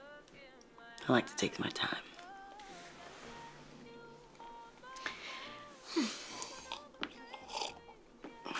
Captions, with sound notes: I like to take my time. (sigh)